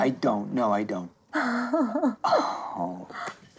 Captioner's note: chuckling